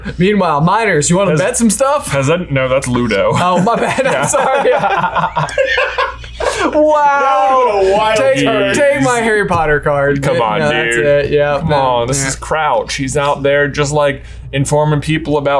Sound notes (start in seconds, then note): 5.2 all laughing